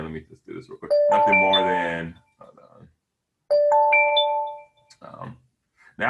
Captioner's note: phone alerting; phone alerting